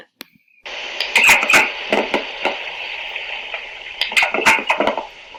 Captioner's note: plastic clanking